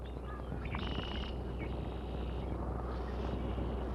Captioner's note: birds singing